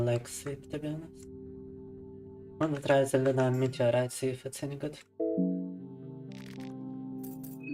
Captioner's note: speaking in foreign language